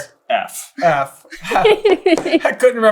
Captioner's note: laughing